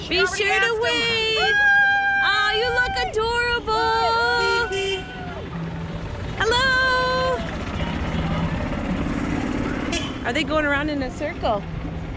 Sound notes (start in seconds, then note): 3.9 horn honking